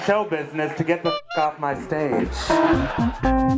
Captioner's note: honk!